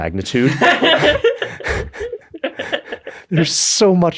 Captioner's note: laughs